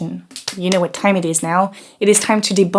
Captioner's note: claps